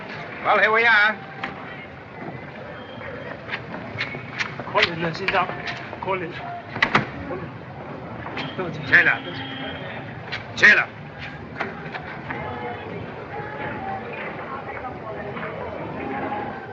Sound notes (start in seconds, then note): 4.5 speaks chinese